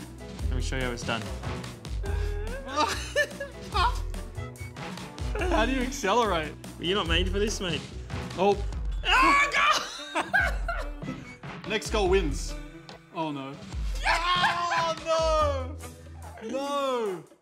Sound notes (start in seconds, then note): 2.7 laughter; 9.7 laughter; 14.0 laughs